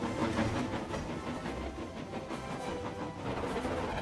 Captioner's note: chug-Chug-Chug